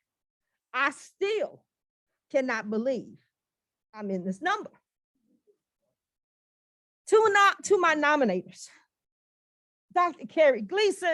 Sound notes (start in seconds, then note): none